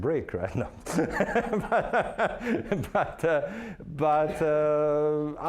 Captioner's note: laughing